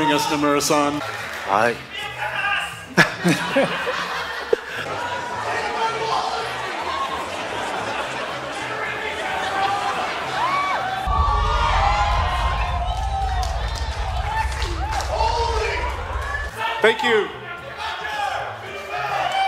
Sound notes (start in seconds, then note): 1.5 speaks in foreign language; 3.0 everybody laughing; 4.7 audience chatters; 8.5 audience heckling; 10.2 audience cheering